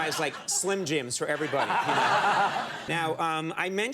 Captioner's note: audience laughing